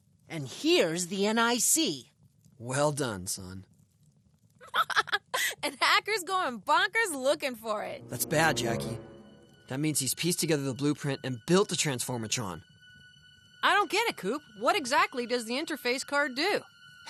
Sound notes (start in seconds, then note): 4.6 laughs